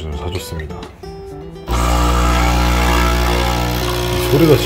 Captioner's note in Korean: 드르르르르르르를~ / 작동 on